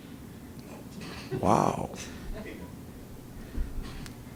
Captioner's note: laughing